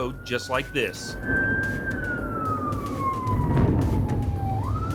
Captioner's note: sirens wailing